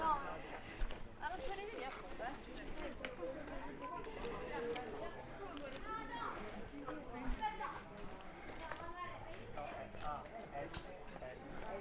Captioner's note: background chatter